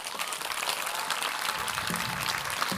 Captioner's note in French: Applaudissements